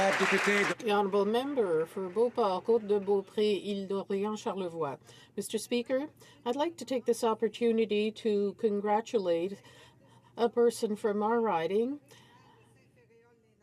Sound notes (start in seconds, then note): 0.0 applause